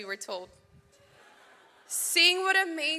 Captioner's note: audience laughs